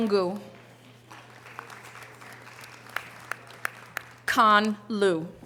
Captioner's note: audience applause